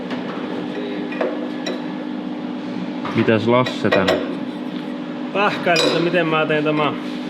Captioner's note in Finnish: taustahälinää